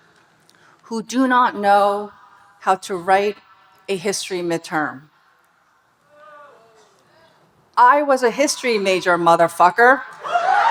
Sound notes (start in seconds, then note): 6.3 audience booing; 10.2 audience cheering and applauding